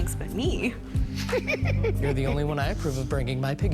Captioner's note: laughs